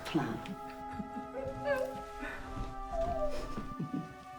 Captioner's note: Faye laughing; dramatic music